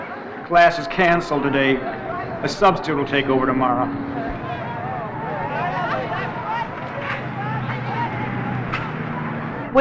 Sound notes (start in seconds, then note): 5.9 students talking